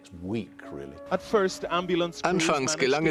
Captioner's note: voiceover